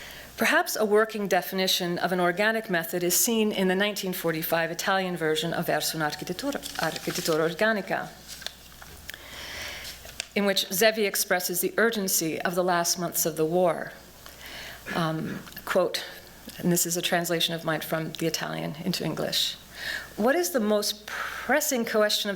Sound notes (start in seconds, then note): 7.0 non-english speech